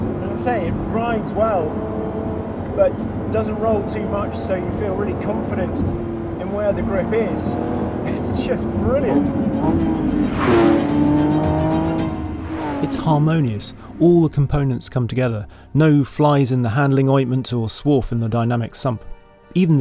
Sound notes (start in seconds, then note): 9.2 upbeat music; 9.8 car engine roaring